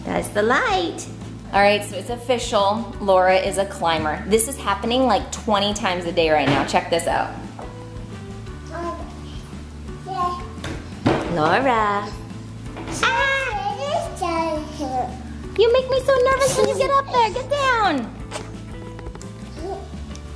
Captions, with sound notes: That's the light! Alright, so it's official. Laura is a climber. This is happening like 20 times a day right now. Check this out. (baby cooing) Laura... Ahhh! (baby babbling) You make me so nervous when you get up there! Get down!